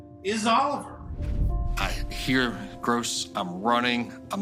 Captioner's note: none